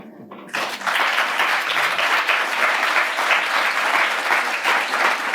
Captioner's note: audience clapping; audience laughing